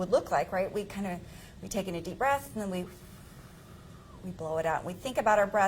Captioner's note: exhales